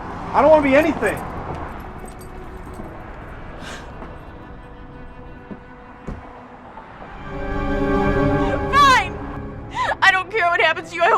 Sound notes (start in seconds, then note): 1.6 dramatic music; 3.6 sniffles; 6.8 tense music